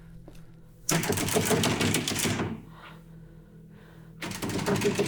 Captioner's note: door rattling